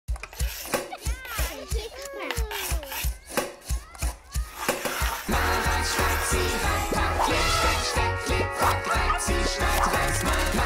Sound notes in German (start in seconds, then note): 0.2 Kreide kratzt auf der Straße